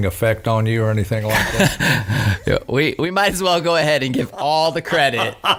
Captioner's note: laughing